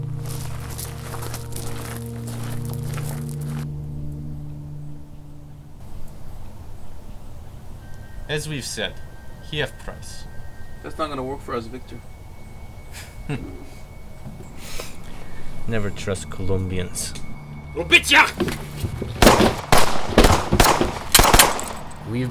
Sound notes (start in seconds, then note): 17.9 speaks Russian; 19.1 gunshots boom